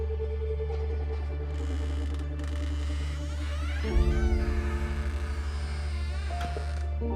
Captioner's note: gentle suspenseful music; door squeaking